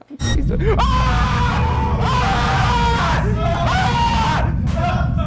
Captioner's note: screams